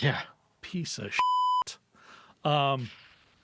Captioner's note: beep